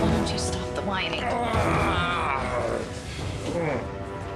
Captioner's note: groaning